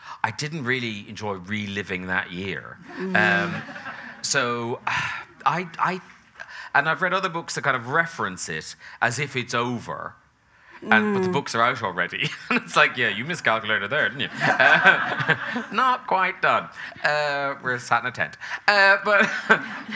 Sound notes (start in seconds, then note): 3.0 audience laughing; 14.2 audience laughing; 14.5 Graham chuckling; 19.2 chuckles